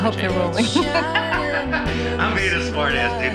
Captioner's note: laughing